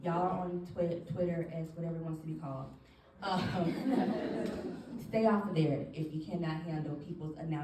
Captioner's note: audience laughs